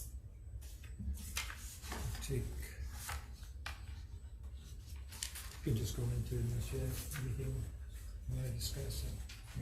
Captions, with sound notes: (papers crackling) Take, you can just go into initiative. Anything you wanna discuss?